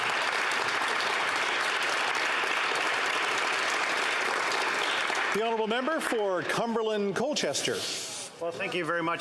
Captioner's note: applause